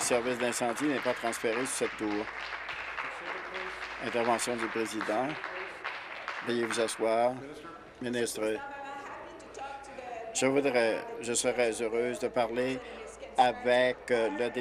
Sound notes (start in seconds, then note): 0.0 applause